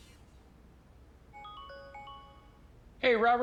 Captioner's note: computer jingles